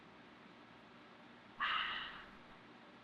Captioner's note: sighs